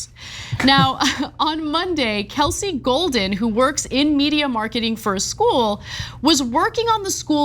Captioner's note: laugh